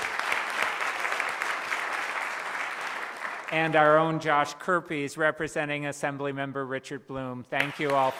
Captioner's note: applause